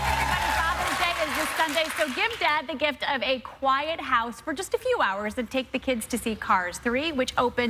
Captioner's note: cheers and applause